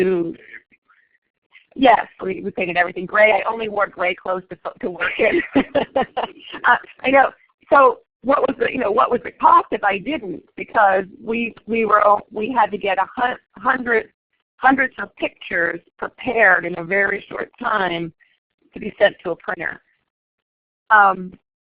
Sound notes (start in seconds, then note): 9.7 laughing